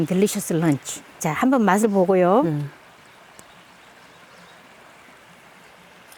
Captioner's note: speaking foreign language